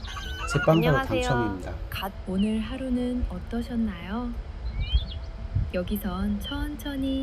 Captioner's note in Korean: 웃음